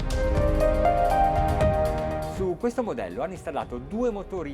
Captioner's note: speaking Italian